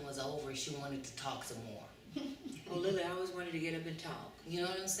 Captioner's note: laughter